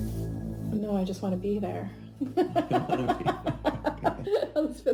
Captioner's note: laughing